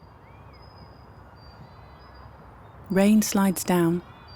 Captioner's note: wind blowing